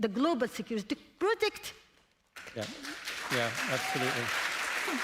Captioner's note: applause